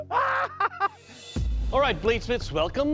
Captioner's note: maniacal laugh